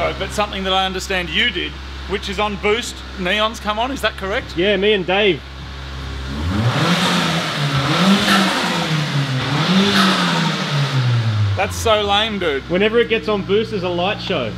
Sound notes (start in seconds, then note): 6.3 choo-choo noises; 6.3 engine revs